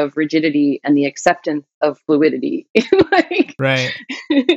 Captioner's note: laughter